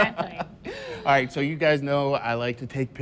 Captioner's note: laughter